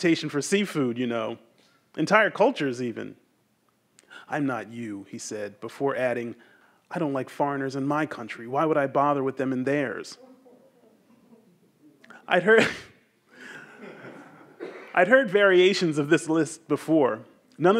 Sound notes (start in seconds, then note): 10.9 audience members chuckle; 13.4 laughs; 13.5 audience laughs